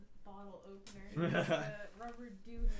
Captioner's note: laughing